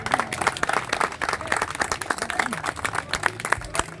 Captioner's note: applause